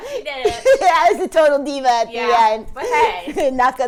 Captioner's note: laughing